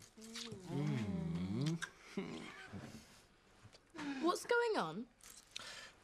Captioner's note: Loz moaning; Shauna moaning